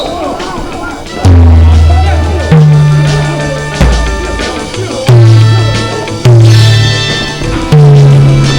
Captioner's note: muffled chatter